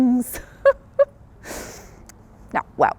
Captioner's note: chuckles